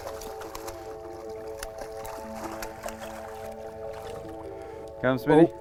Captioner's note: splashing